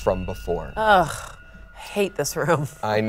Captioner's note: groans